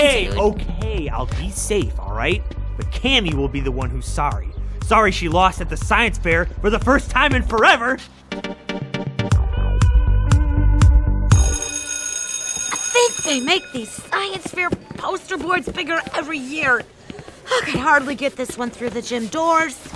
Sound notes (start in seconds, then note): 11.3 school bell